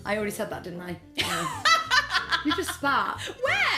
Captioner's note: laughs